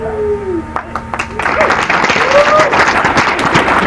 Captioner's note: applause